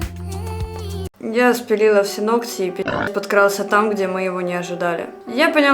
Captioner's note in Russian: хрю